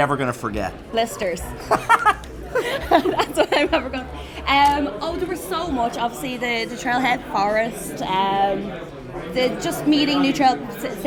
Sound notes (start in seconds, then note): 1.5 laughing